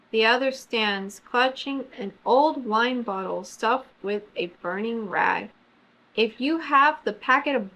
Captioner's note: none